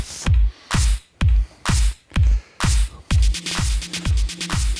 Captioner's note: breathing